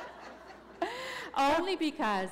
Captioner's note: laughter